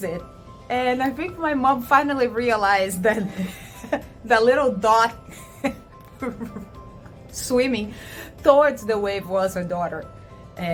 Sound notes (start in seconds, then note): 6.0 chuckles